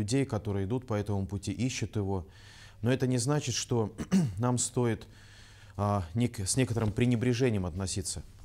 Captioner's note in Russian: прочищает горло